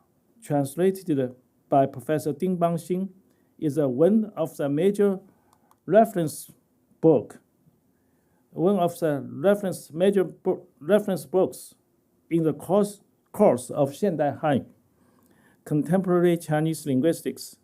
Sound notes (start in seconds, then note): 13.9 speaking chinese